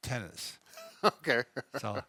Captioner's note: chuckles